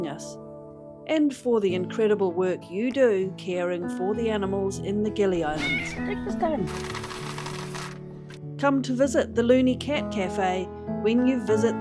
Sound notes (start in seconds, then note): 1.7 uplifting music; 5.5 cat meow; 6.6 biscuits rattle